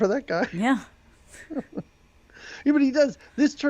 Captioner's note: giggling